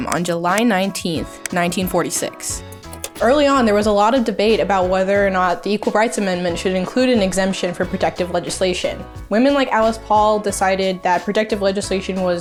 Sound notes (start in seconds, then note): 2.6 words click; 2.7 image clicks